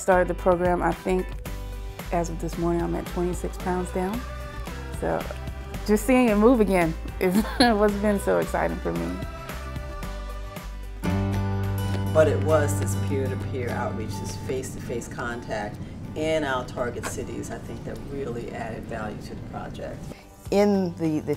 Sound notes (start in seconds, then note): 7.3 laughs; 10.8 upbeat guitar music